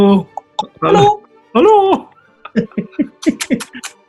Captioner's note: both cooing; clicking tongue; kissing sounds